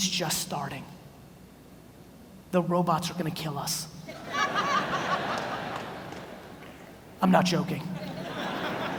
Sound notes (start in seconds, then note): 4.1 audience laughs